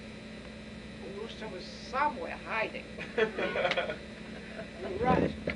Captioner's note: laughter